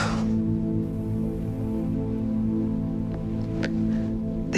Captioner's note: gasping